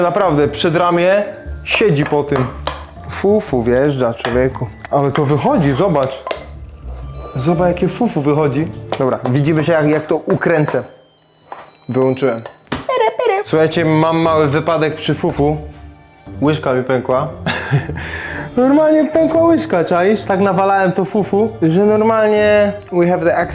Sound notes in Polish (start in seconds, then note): 17.4 śmiech